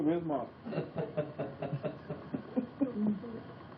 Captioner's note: laughter